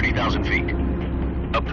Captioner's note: radio voice